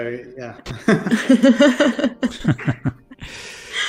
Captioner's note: laughter